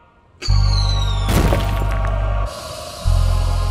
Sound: firework whistles; steam hissing

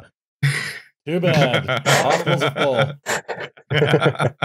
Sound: laughter

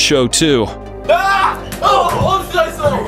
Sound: screams

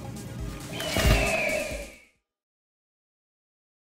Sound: eagle screeching

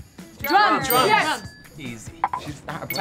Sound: bell dings

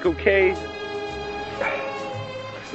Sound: groans

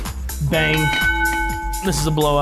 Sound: bell dings

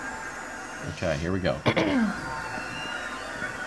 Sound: clears throat

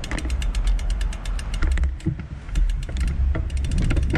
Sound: bicycle clicking

